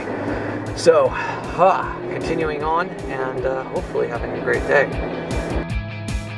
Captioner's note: sighs; upbeat pop music